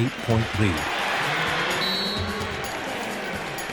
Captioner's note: blast of whistle